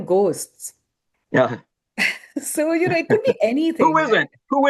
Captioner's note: chuckles